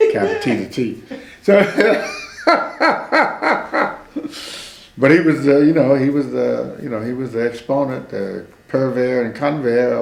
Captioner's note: laughs